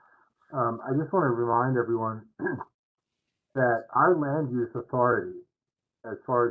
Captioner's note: cough